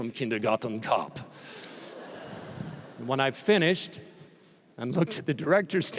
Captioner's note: laughter